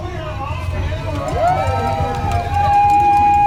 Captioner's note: spectators applauding